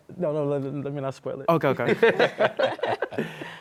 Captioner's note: laughter